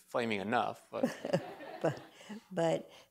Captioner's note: laughter